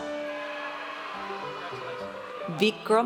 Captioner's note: audience cheers